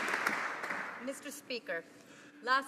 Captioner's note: some Applause